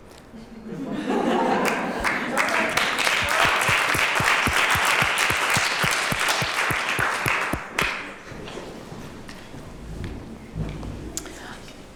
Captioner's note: applause